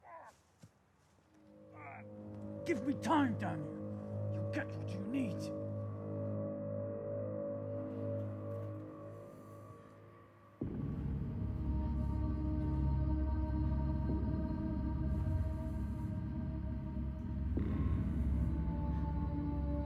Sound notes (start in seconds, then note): 1.8 Van Helsing groaning; 7.4 melodic haunting music